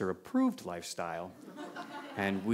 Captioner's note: laughter